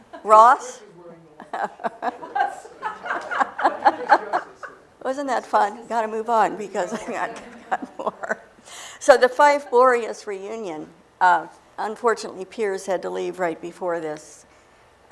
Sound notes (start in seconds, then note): 1.4 laughter; 6.6 laughing